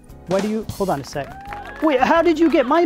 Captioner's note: applause